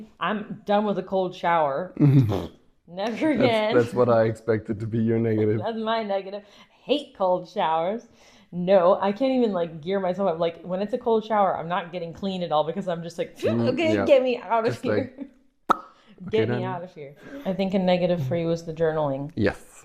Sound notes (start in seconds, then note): 15.7 pop